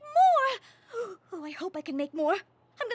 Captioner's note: gasps